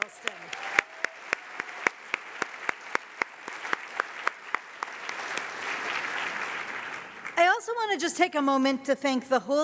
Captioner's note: applause